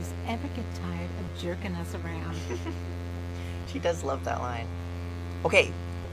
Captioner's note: giggles